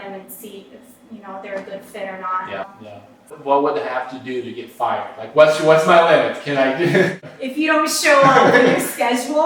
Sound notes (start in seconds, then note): 8.2 laugh; 8.2 laughter